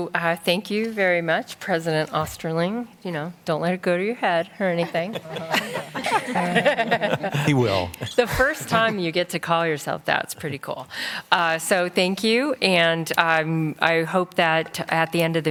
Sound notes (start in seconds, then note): 4.8 laughter